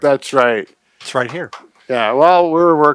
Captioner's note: tapping chest